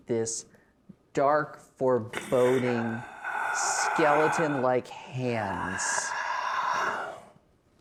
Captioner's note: breathing creepily